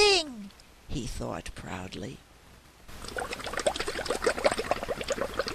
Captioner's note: sound of bubbles in water